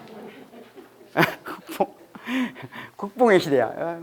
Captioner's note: haha